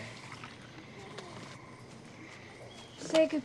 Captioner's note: birds chirping